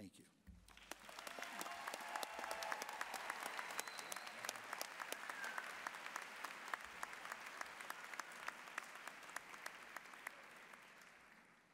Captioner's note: applause, cheering